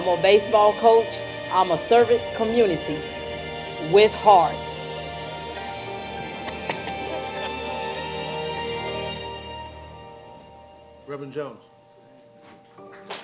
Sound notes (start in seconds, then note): 10.9 applause